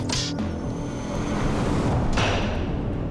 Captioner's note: arrow whistles, strikes